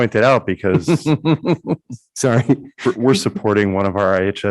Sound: chuckling

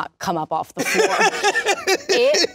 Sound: laughs

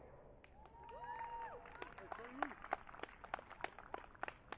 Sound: audience cheering

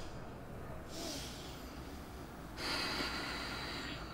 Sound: emma takes a deep breath and exhales

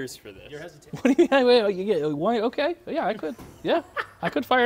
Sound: stutters

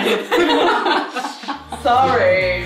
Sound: laughing

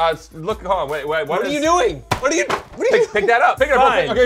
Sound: smacks

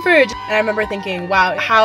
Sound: people cheering

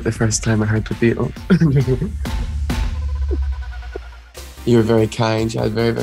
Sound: chuckling shyly

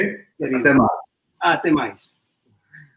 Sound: speaks portuguese

